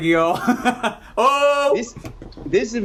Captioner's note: laughs